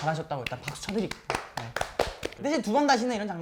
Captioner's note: applauding